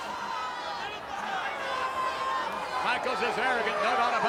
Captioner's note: audience shouting